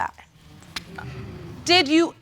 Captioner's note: audience exclaim